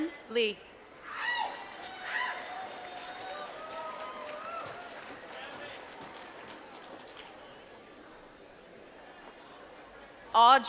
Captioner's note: applause